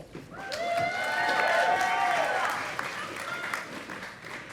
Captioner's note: audience applauding